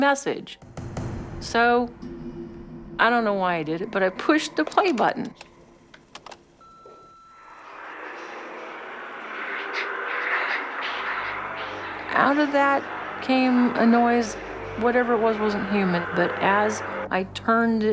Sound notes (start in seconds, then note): 5.9 machine beeps; 7.8 distorted interference